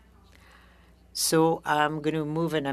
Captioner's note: speaking French